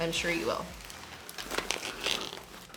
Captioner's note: bags crinkle